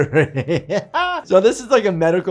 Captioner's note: laughs